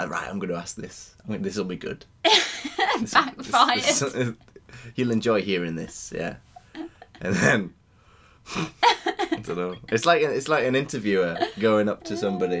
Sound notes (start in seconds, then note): 2.4 laughing; 9.0 scoffs